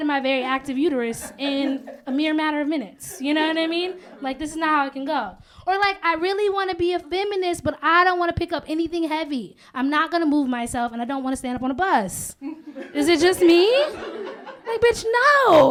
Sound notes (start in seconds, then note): 12.4 laughter